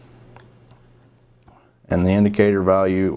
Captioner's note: mouse clicking